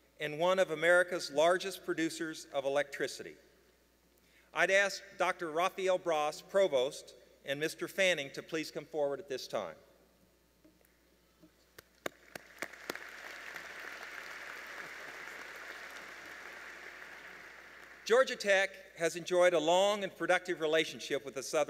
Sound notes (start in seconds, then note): 11.8 applause